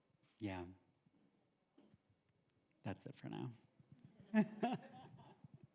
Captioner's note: laughs